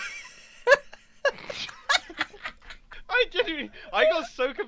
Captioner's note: confused laughter; laughs